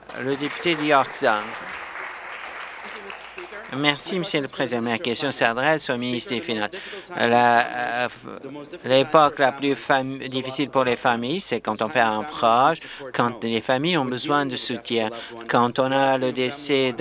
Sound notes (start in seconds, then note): 3.4 applause